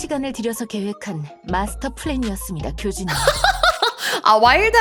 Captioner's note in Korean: 웃음